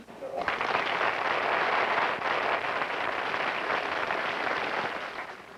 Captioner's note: applause